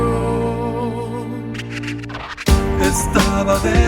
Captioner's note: <i>scratch disc</i>